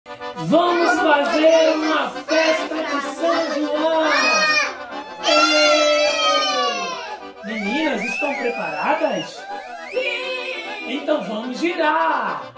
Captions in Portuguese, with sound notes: Vamos fazer uma festa de São João! [Gritos de Comemoração] Meninas, estão preparadas? -Siiiim! -Então vamos girar!